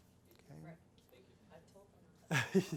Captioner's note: laughs